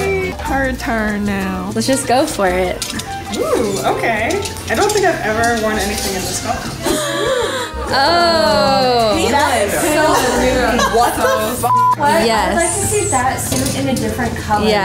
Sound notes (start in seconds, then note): 6.8 women gasp; 11.6 beep